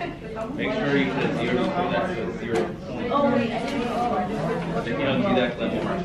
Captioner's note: students chattering